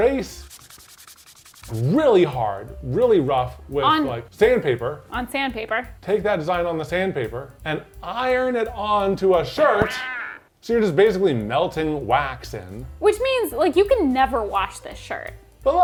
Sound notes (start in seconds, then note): 0.1 crayon scraping; 9.6 comical quacking